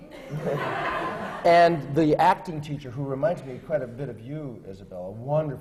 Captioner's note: laughter